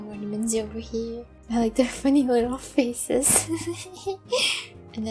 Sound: giggling

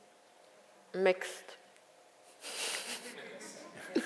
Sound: laughs

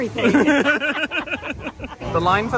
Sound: they laugh

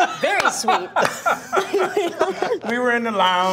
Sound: Anthony laughs; all laughing

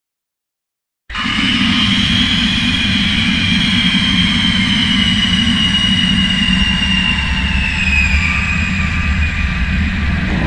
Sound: scream

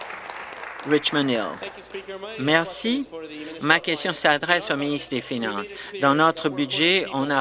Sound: applause

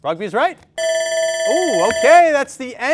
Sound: bell rings

